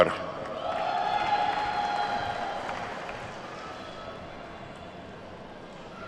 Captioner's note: attendees whooping and clapping